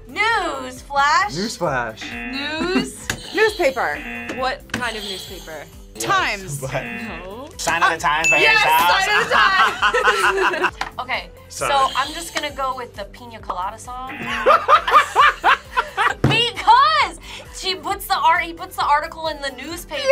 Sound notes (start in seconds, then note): 2.0 buzzer; 2.0 buzzer rings; 6.0 buzzer; 8.9 both laugh; 14.0 buzzer; 14.1 laughs